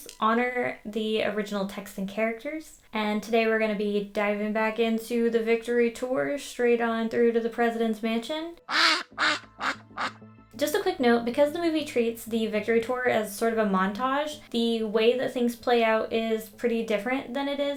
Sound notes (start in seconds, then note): 8.6 quacks